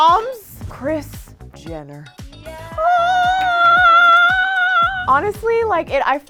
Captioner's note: all cheering